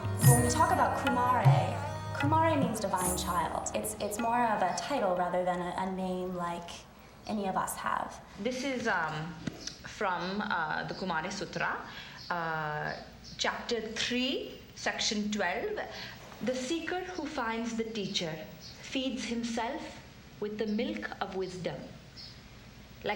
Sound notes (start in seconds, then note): 8.7 印度口音; 10.7 indian Accent